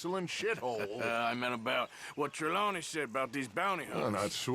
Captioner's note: laughs